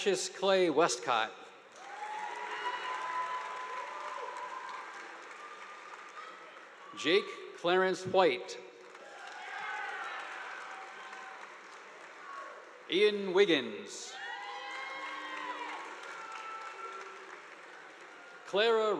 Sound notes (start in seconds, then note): 1.8 audience applauding; 1.8 students cheering; 8.8 audience applauding; 9.0 students cheering; 14.1 students cheering; 14.2 audience applauding